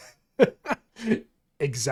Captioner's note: laughing